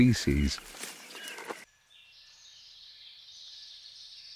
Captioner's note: birds chirping